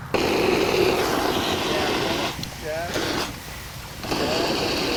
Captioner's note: extinguisher wooshing